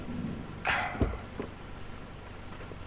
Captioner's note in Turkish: Kapı açılma sesi